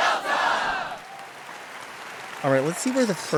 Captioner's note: audience applauds